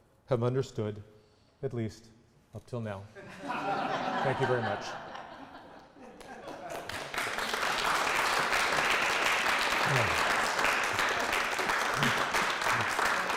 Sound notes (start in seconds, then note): 6.2 applause